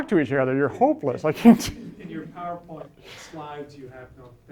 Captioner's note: voiceover